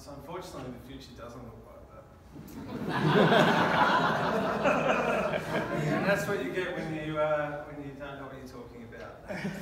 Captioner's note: laughter